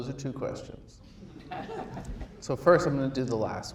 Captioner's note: audience laughs